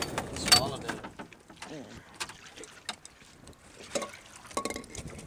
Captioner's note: water splashing